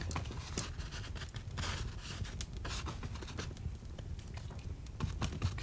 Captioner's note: crackling continues